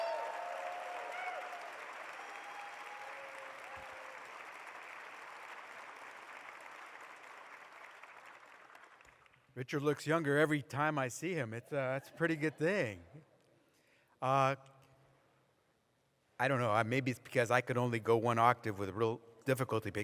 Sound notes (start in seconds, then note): 0.0 applause